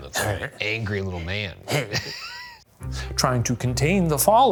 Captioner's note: laughs